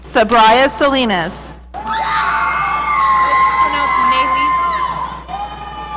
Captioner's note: audience cheering